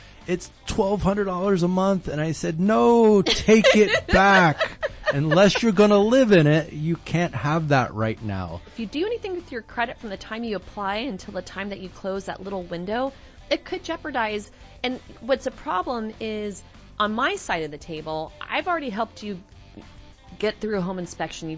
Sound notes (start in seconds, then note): 3.0 laughs